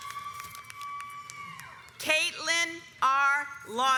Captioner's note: audience applauds